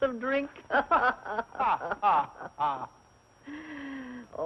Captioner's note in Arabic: يضحك